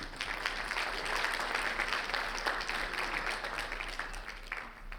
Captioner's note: audience clapping